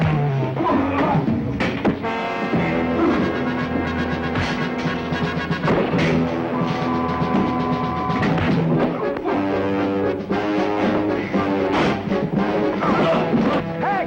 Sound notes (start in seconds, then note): 0.3 suspenseful music; 5.6 Jake's kick thuds; 7.1 suspenseful music; 8.6 Jake's punch thuds; 10.3 suspenseful music; 11.7 door blasts open